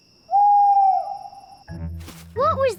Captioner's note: owl hoots